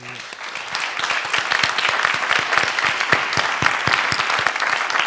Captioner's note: audience applauding